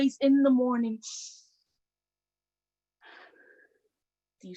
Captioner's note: sniff